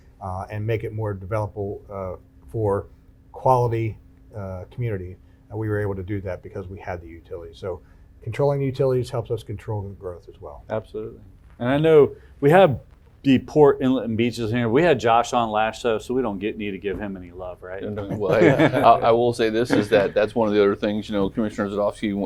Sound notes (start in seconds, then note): 17.9 laughs